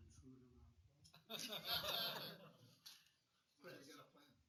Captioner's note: laughter